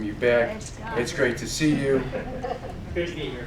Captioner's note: laughing